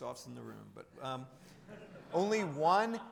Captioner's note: audience chuckling